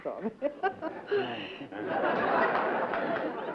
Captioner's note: laughter